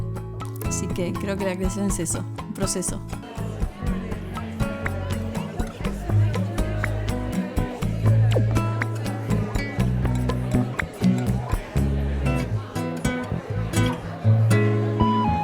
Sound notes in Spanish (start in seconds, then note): 3.2 murmullo de gente; 3.2 música percusión suave